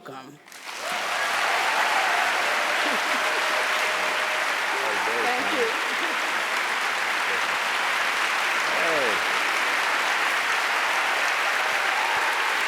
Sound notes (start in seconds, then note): 0.4 applause